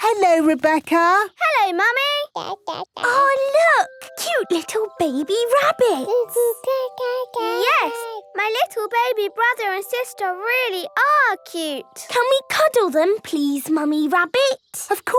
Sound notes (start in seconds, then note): 2.2 babbling